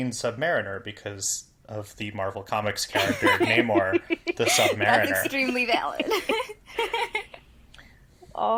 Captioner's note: laugh